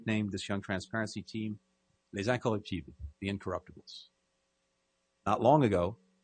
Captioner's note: speaking french